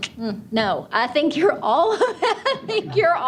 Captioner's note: laughs